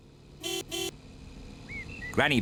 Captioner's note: car horn honks